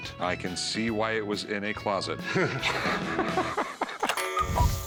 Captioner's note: laughter